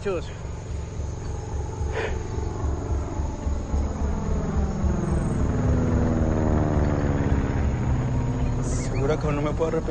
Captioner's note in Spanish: Rugido de motores